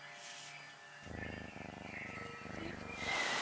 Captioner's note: purring